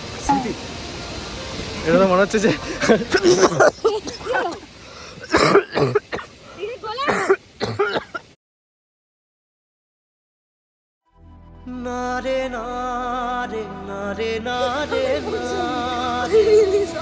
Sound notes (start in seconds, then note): 2.8 sneezes and coughs frantically; 5.0 keeps on coughing profusely